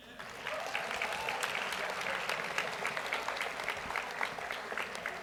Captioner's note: audience applauds